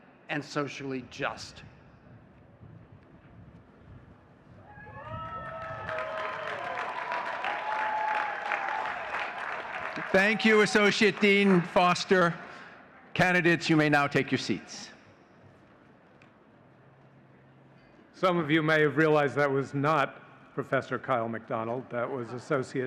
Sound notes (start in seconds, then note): 10.2 audience cheering and clapping